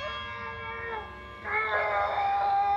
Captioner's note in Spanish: gritos de dolor